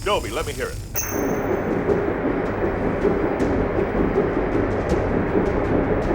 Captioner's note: engine thrumming